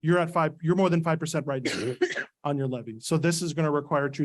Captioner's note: coughs